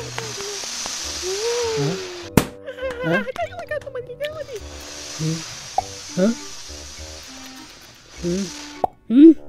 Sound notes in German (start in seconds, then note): 0.1 mumbled kauend; 0.9 Blasen aufblasend und knallend; 2.9 fröhlich gemurmeltes klatschen; 4.3 grouchy gebrabbel; 4.5 aufblasend und knallend